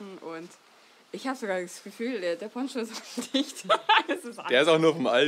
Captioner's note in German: lacht